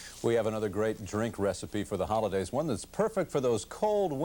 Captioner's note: none